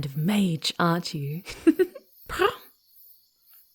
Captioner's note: giggling playfully, then giving a curious purr